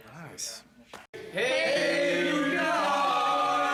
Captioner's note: crowd